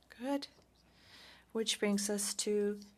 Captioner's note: speaking French